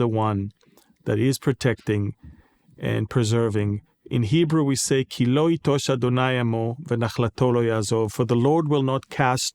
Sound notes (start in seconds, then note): 6.0 speaking in Hebrew